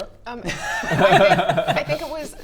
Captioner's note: sneaky laughs